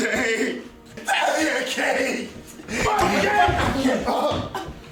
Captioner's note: kick; crying